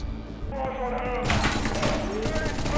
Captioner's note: gunshots